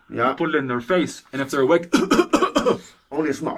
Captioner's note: coughs